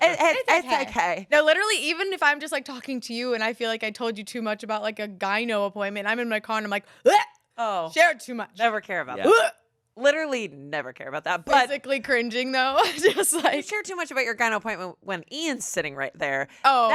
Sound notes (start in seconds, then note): 9.2 gags